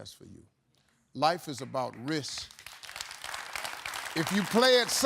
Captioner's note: audience applauding